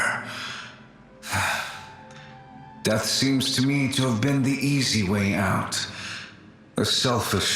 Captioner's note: sigh